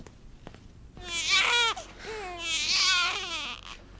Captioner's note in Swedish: baby crying